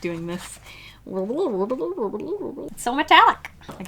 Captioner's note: turkey gobble noises